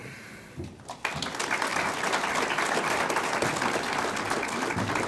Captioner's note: audience applauds